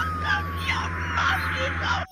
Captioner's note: sobbing